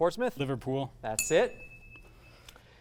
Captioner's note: ding sound